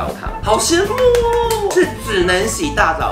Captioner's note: clap hand